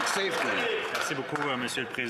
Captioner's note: applause